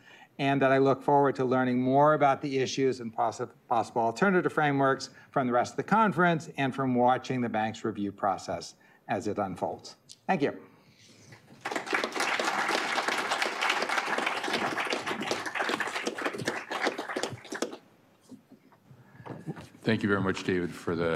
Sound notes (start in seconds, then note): 11.4 applause